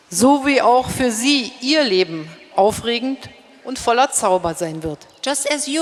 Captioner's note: speaking in German